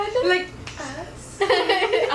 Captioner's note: laughs